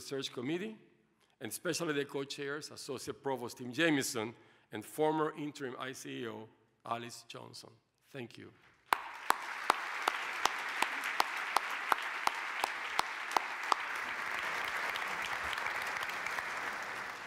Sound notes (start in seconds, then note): 8.7 applause